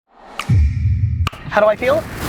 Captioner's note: snap with echo